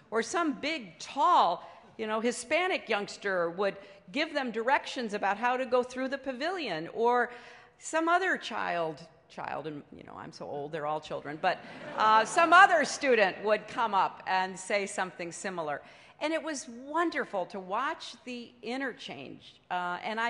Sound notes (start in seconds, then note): 11.6 laughter